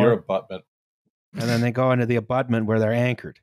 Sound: snorts quietly

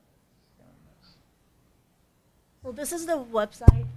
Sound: speaking faintly

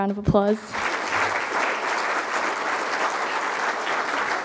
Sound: crowd applauding

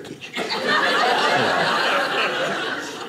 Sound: audience laughing

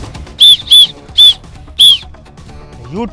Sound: whistling

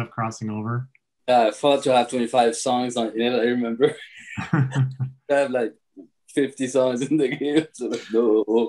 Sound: laughs

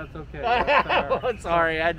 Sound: laughs

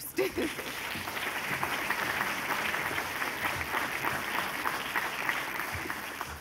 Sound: applause

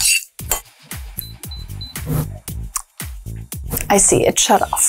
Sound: bowl scraping; kettle beeping

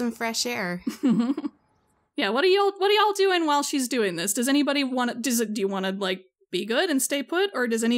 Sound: laughs

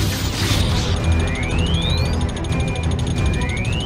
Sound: Thermal Detonator starts beeping

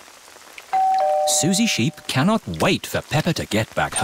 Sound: doorbell rings

